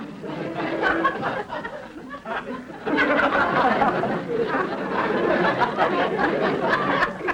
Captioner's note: audience laughter